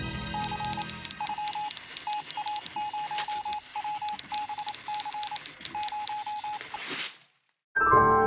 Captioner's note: suspenseful music; telegraph beeping, typing